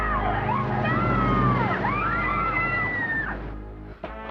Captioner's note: screaming